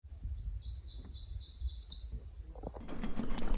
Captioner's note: birds chirping